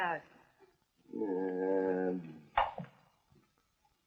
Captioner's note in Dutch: kreunend